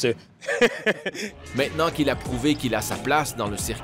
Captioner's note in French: rire